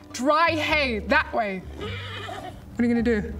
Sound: whinny

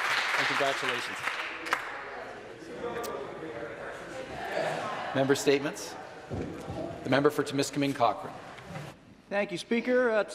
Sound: applause

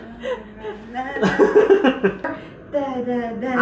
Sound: laughs

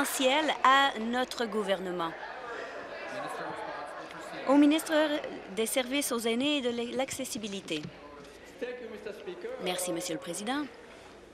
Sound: applause

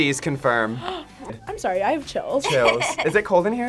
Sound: gasps

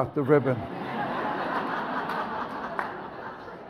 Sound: audience laughs

